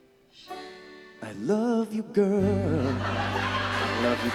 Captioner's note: laughter